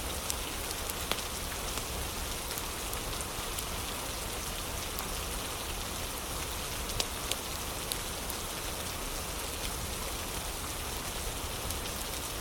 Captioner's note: fire crackling; fire crackling